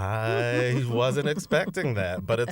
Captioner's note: laughter